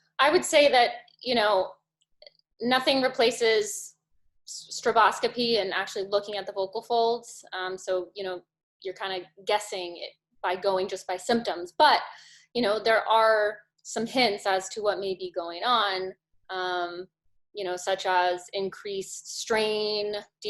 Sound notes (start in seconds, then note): none